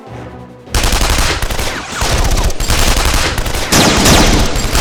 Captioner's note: dramatic orchestral music; guns blasting